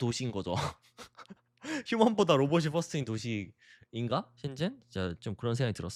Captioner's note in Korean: 웃음